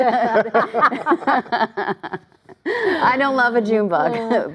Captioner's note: laughter